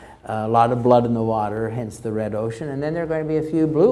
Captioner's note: none